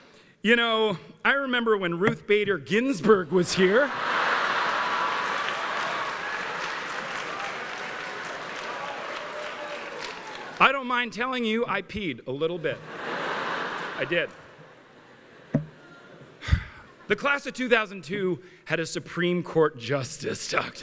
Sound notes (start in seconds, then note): 6.0 applause; 6.0 laughter